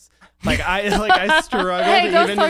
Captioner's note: laughs